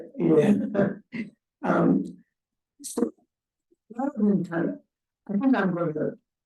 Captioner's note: chuckles